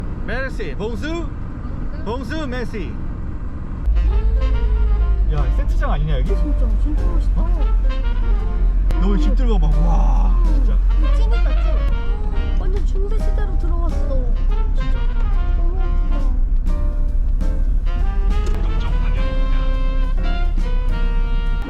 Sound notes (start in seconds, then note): 4.0 exclamation